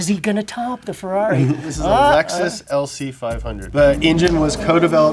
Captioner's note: chuckles